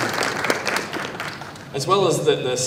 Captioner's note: applause